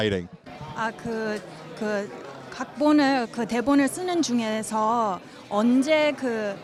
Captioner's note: speaks in a foreign language